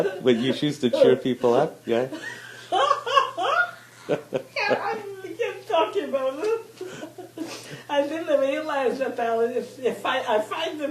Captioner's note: laughing; laughing